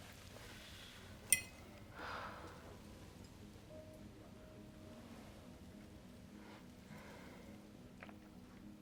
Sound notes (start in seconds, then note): 1.9 sighs; 3.6 dramatic piano music